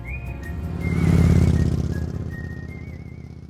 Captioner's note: motorcycle engine revving